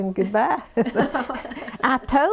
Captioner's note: laughter